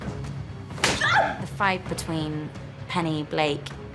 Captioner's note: yelps